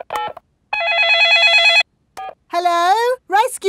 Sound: dialing; cell phone ringing

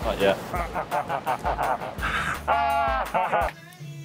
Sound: laughing

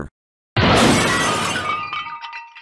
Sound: smash!

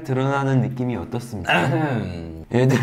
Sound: clears his throat

